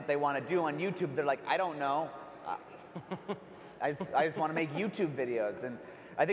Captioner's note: laughs